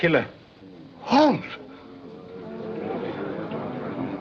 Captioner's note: murmuring